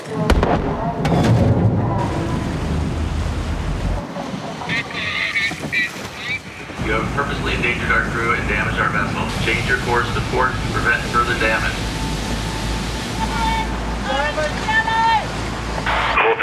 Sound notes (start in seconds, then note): 0.2 gun fires; 3.0 water sprays; 7.1 man On Loud Speaker; 14.0 people yell excitedly